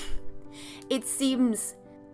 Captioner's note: scoffs